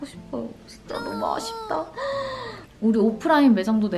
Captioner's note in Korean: 엉엉